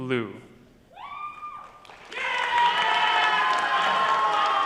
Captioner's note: cheering and shouting